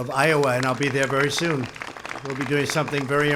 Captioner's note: applause